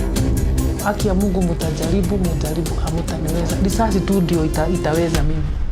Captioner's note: speaking in foreign language